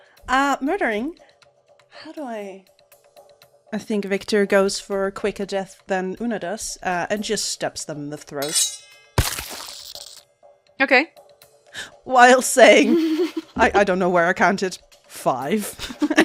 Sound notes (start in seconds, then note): 9.1 schiiing of a blade, wet thunk of stabbing